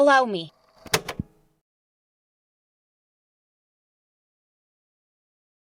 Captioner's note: tape clicks off